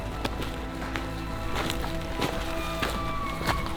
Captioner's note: elk bugling